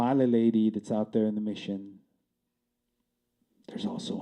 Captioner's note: whispering